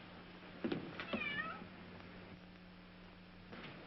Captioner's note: meows